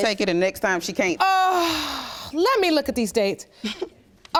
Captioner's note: sighs